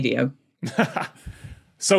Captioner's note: blurts short laugh